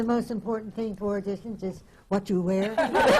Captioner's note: laughter